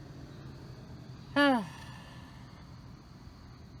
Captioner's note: sighs